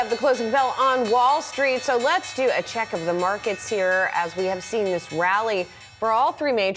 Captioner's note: closing bell